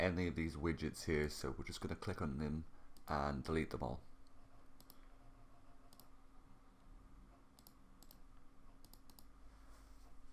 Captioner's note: clicking